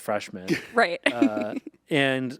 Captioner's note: laughs